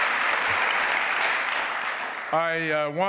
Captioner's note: applause